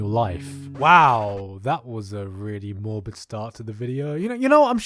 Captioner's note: SFX: Rewind